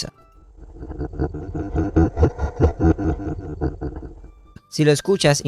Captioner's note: laugh Audio